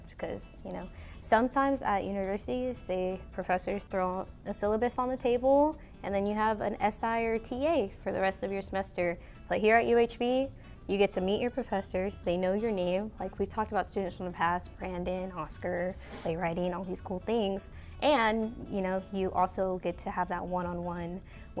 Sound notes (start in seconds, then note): none